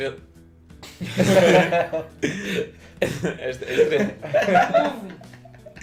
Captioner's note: laughs